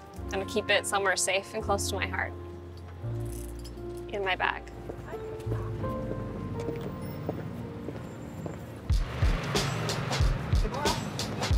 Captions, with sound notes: I'm gonna keep it somewhere safe and close to my heart, in my bag. [boots click] [upbeat music]